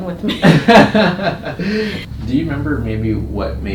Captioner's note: laughter